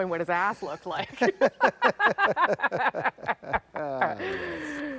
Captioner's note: laughter